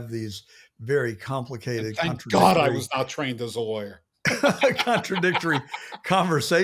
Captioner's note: laughs